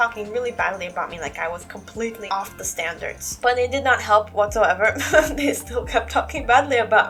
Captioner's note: laugh